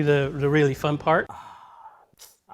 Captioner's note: sigh; sucks teeth